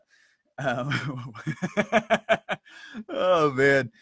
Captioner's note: laughs fully and repeatedly